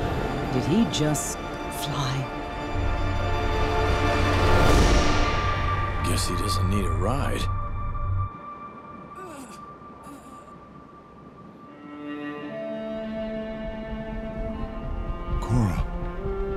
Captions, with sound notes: Did he just... fly? Guess he doesn't need a ride. [groaning] Korra.